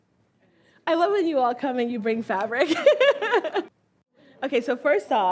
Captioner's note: laughs